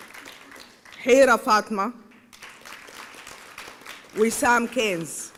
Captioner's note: applause